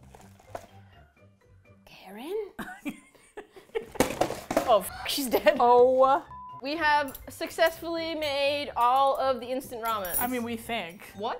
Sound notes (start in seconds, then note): 2.5 laughs; 3.9 containers clatter